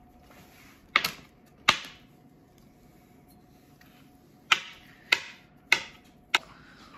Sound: chopping

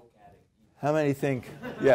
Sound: laugh

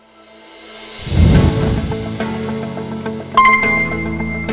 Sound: ding

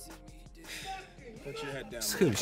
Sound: yelling; laughing

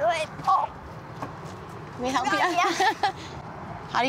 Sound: laughing

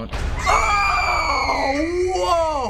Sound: both shriek

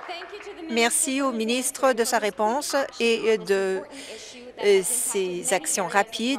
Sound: some Applause

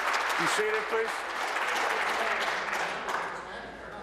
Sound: applause

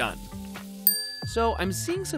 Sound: dings

